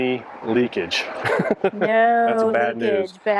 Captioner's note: laughs